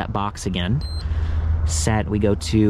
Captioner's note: bike beeps